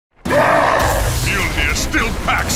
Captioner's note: roars